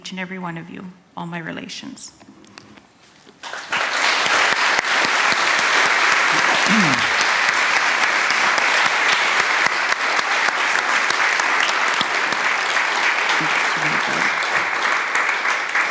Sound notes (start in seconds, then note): 3.3 applause